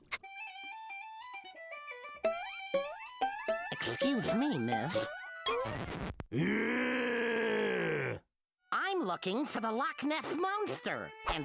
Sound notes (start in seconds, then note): 1.5 bagpipes playing; 6.3 growling